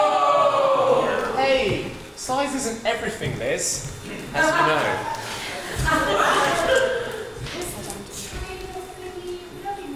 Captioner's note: audience oohs